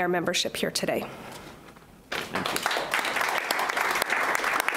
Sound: clapping

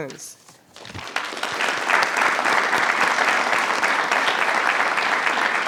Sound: attendees applauding

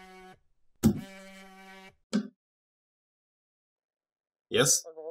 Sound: phone buzzes

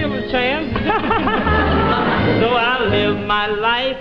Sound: laughing

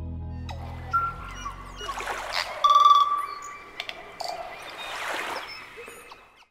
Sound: bird song

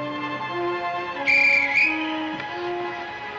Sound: Guard's whistle

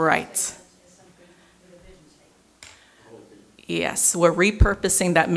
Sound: murmurs

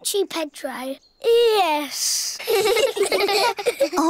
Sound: all giggle

